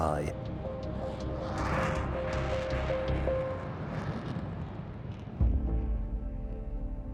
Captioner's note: gentle music continues; jet engine roars